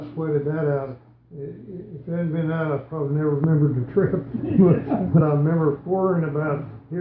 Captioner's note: laughing